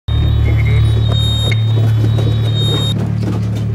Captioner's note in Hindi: सायरन